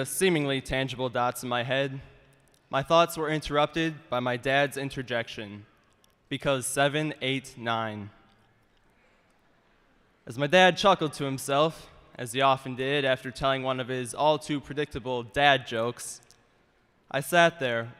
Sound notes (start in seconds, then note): none